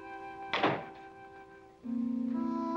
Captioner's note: door closing